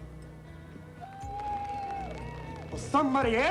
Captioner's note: crowd cheering